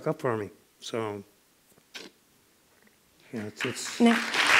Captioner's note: applause